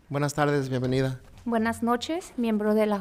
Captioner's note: speaking in foreign language